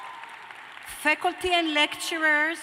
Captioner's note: cheers and applause